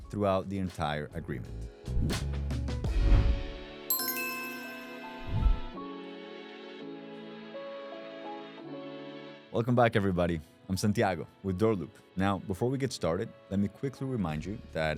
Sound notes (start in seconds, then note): 1.9 upbeat music; 3.9 bell ringing